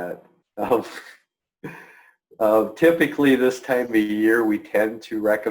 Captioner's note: chuckling